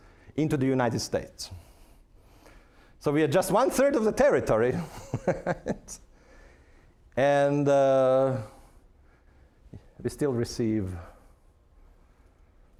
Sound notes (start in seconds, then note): 4.8 laughing